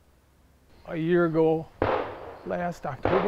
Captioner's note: gun blasting